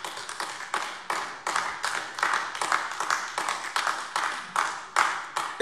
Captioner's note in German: Beifall AfD